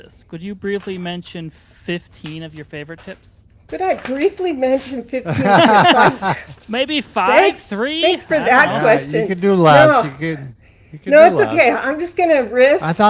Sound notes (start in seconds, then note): 5.2 laughs